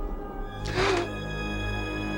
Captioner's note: gasping